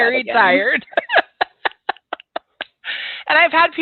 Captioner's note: laughs